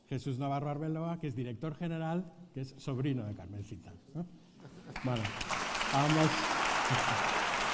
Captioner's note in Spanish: Aplausos